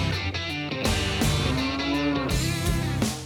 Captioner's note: mooing